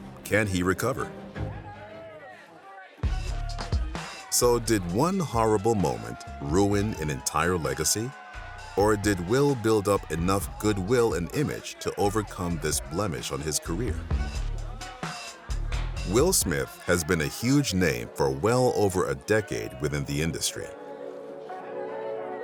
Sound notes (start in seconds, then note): 5.2 crowd yelling indistinctly; 6.7 upbeat music